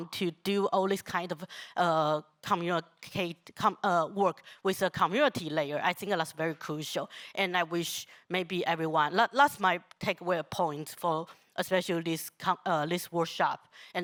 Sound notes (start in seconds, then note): none